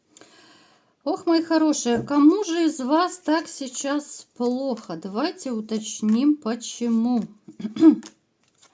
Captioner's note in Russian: откашливается